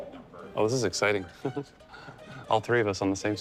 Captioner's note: chuckles